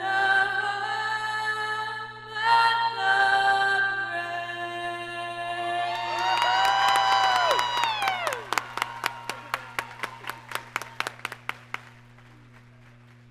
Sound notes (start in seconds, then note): 5.8 applause